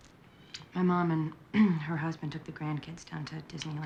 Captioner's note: clears throat